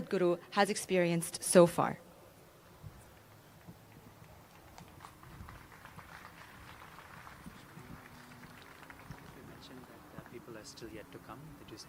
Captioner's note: applause